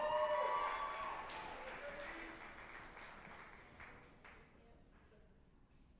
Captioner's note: group applauding and cheering